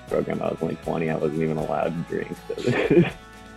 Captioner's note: laughs